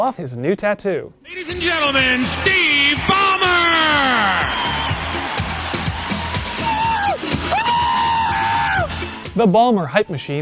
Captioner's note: overly excited whooping